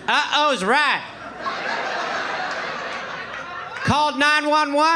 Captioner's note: audience laughing